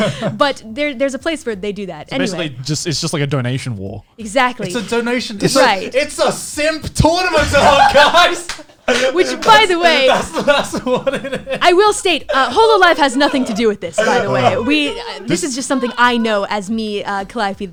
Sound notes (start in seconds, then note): 8.1 laughs; 11.2 laughs